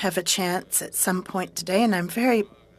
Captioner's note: speaking french